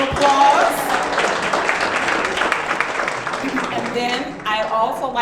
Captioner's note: audience clapping